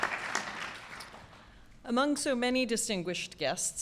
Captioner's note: applause